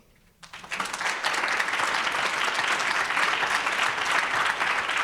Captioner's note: audience applauds